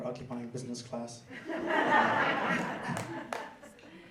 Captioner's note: laughter